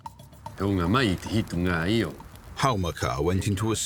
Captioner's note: man speaking Rapanui